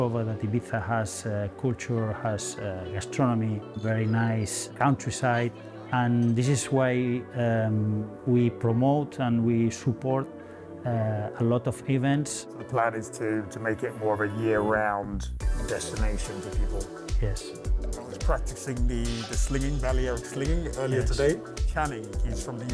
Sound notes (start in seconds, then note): none